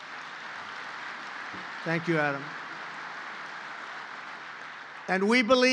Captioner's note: applause